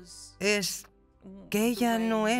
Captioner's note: none